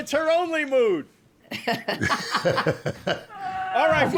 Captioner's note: laughs